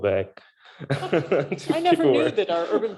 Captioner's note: laughing